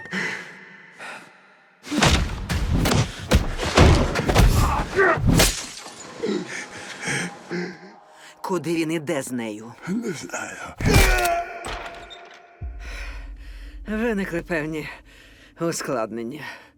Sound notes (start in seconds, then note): 0.1 exhaling; 4.0 man groaning; 5.2 glass shatters; 5.5 man wheezing; 10.7 man groans; 10.8 blow lands